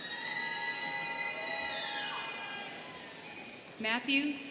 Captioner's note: students cheering